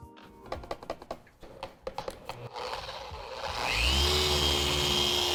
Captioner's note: surface grinding